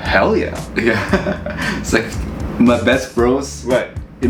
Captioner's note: laughing